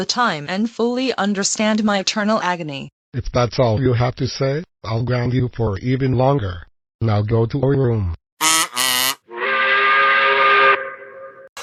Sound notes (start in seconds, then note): 8.4 angry work whistle